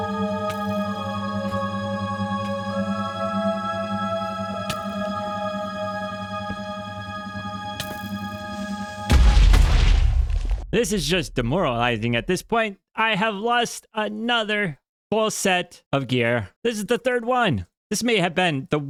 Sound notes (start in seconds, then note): 3.7 soft music; 9.0 explosion